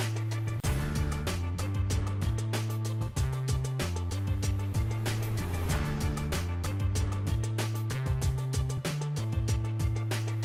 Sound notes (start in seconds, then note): none